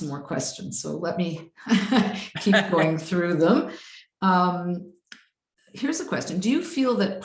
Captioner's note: laughs